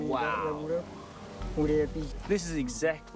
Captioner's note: speaking foreign language